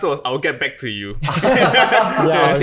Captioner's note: guys laugh